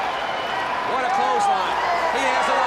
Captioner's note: crowd chatter